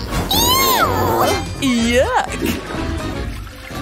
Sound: farts

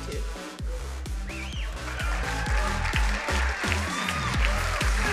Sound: crowd cheering and applauding; upbeat electronic music

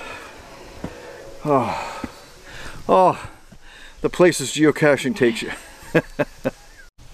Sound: chuckles

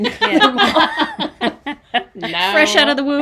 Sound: everybody laughs

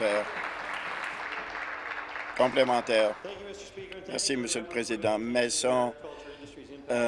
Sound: applause

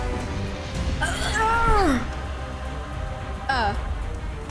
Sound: screaming

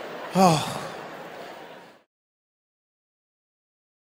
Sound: sighing

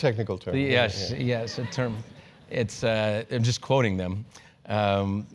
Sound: laugh

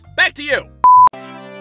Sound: beep!

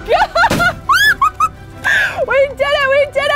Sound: laughing

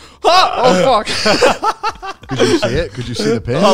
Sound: all laughing

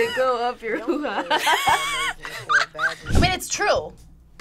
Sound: group laughs

